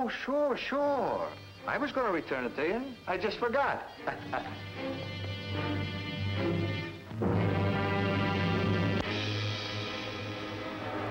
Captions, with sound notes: - Oh, sure, sure! I was going to return it to you. I just forgot. (man laughing) (dramatic music playing)